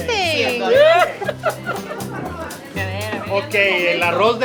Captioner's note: laughter